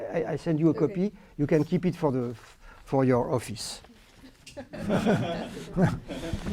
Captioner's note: laughter